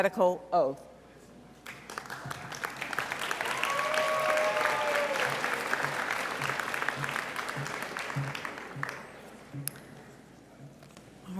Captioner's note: audience clapping